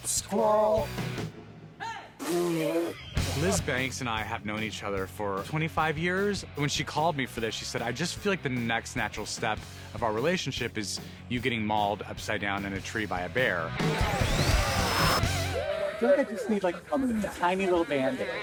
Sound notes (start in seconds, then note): 2.5 laughing; 13.6 roars; 14.4 screams